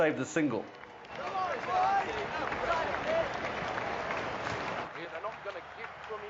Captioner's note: cheering